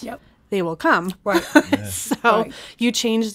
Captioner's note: laughs